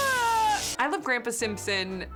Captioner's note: abe screams